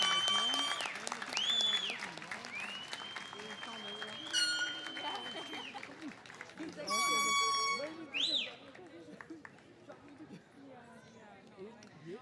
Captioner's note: cheers and applause